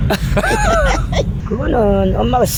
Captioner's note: laughs